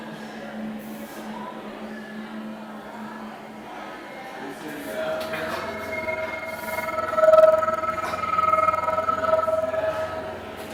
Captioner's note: eerie hum